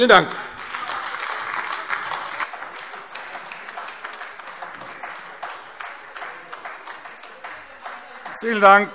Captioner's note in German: Beifall AfD - Zurufe BÜNDNIS 90/DIE GRÜNEN